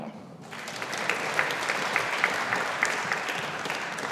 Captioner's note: audience applauding